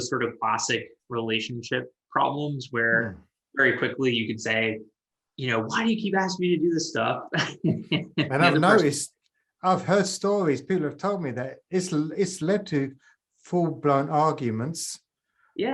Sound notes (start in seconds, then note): 7.3 laughs